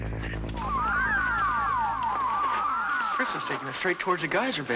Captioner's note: crystal warbling